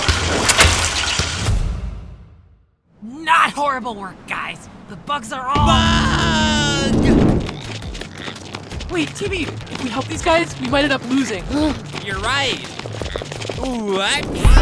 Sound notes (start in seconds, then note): 11.5 gasp